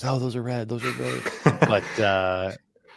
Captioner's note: laughter